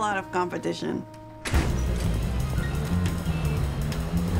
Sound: door closing; whimsical music

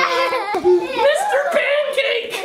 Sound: children laughing

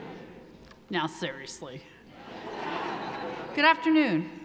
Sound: audience laughing

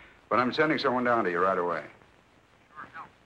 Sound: on phone

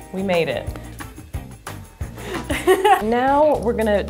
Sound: lighthearted music; laughs

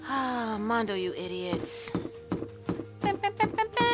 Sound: sigh

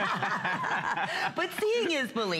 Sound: laughter

